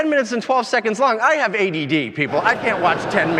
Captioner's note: audience laughing